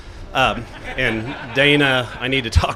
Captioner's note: laughter